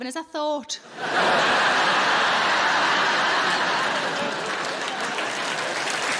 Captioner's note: audience laughing and applauding